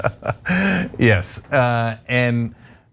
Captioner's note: laugh